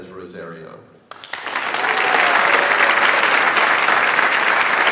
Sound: audience applauds

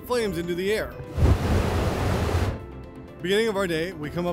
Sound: fire whooshing

